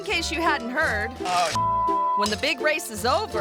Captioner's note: beep